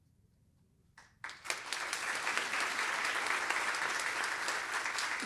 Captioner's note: applause